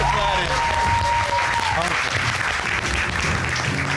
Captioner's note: audience cheering